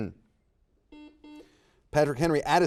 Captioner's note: buzzer dings